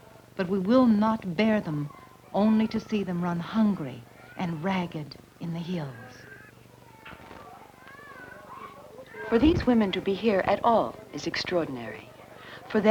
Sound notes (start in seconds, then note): 7.4 children fussing